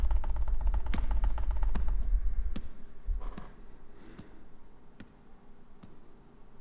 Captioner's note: executioner's steps fade away